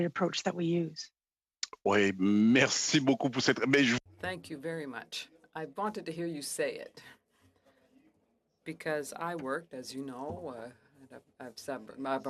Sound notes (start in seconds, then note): 6.2 speaking French